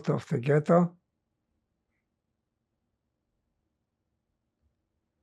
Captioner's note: pauses 6 seconds